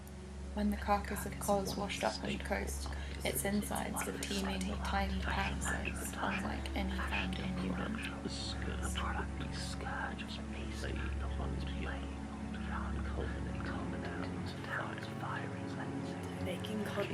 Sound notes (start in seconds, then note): 7.2 many whispering voices read item descriptions